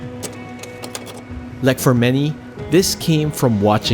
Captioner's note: image clicks